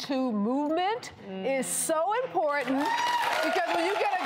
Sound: audience cheering

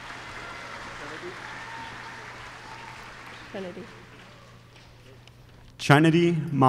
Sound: applause

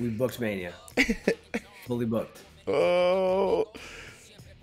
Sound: laugh

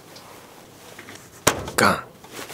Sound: knocking knee against desk

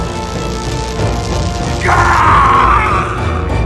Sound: BLU Sniper screams as he put his hands on his head

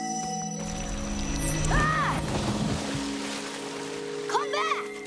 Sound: screaming, splashing

